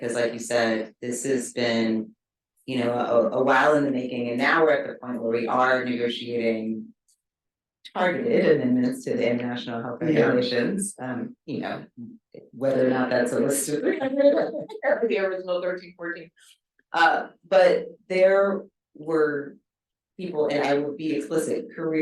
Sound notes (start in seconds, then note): 13.8 chuckles; 13.9 speaking faintly